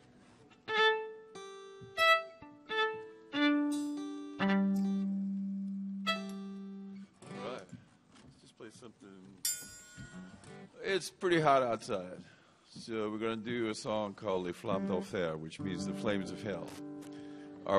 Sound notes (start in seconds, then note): 14.4 speaking in Cajun